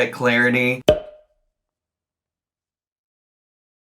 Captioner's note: air pops